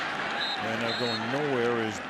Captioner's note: whistle